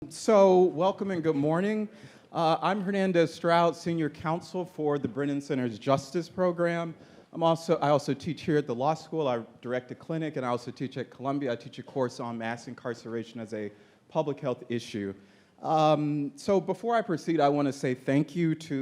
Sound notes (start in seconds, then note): none